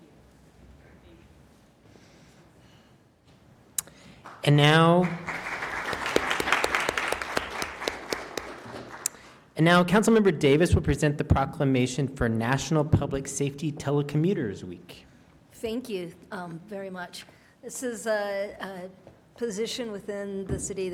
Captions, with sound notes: And now. (applause) And now, Councilmember Davis will present the proclamation for National Public Safety Telecommuters week. Thank you very much. This is, position within the city